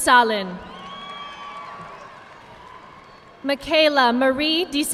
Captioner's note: audience clapping